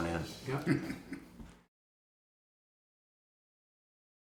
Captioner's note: laughing